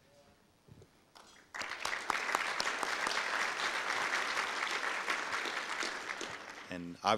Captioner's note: audience applause